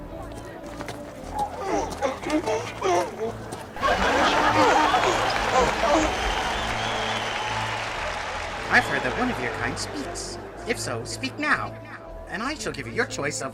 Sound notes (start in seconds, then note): 1.3 crowd cheering; 2.1 donkeys braying